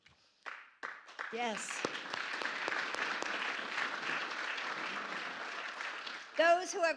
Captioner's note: applause